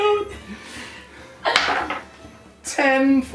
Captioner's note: dice Rolling